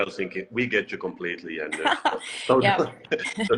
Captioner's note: laughs